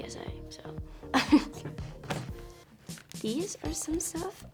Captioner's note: laughs